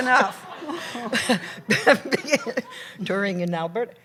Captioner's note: laughter